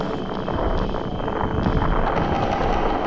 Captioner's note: roaring fire